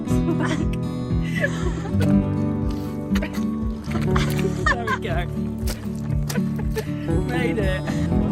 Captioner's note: giggles and squelching